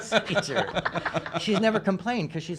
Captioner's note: laughing